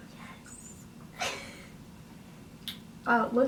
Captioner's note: laughs